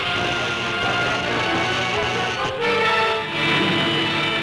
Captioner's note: electricity zaps